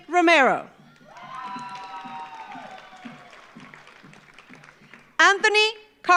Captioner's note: audience cheers; audience applauds